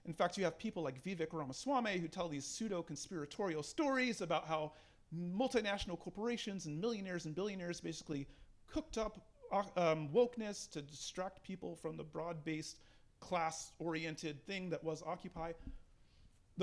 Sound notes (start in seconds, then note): none